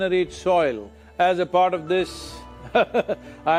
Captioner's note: few laugh